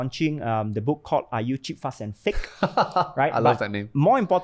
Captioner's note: laughs